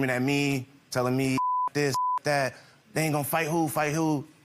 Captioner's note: beep